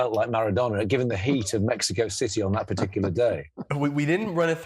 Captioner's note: laughs